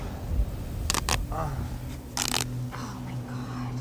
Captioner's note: grunts